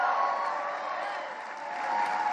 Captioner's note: cheers and applause